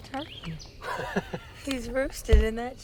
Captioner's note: laughs